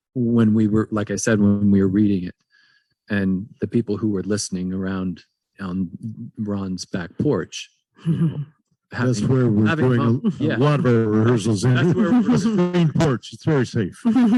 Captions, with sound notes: when we were, like I said, when we were reading it and the people who were listening around on Ron's back porch (group chattering) - A screened porch, it's very safe.